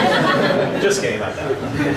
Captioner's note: audience laughing